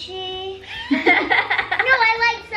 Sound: laughs

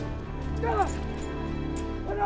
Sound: yelling; speaking foreign language

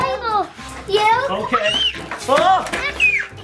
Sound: screaming

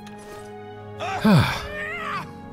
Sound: sigh

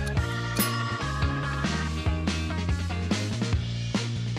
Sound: alarm rings

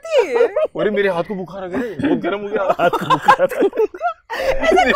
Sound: laughing

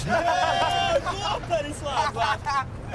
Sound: laughter

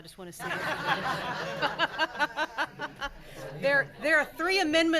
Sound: laughing

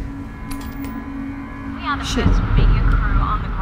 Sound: TV blaring on

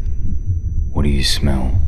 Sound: heart beats

